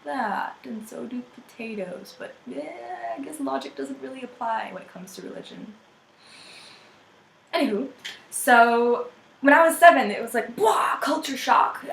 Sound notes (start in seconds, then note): 6.2 inhales